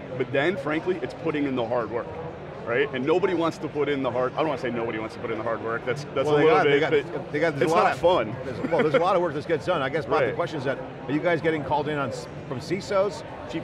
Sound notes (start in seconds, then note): 8.4 laughs